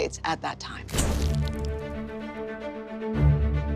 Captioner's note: camera flash; upbeat orchestra music